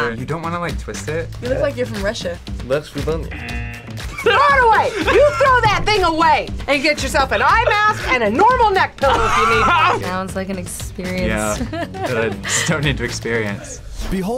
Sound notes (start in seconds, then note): 3.3 buzzer rings